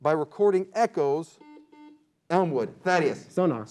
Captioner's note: beep